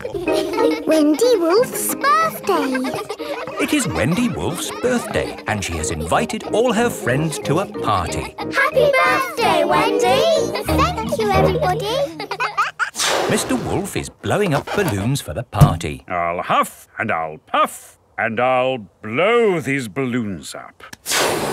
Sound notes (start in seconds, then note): 3.4 kids laughing